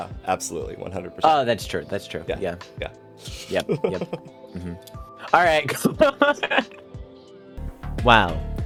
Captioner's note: laughter